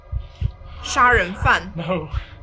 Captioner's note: Mandarin language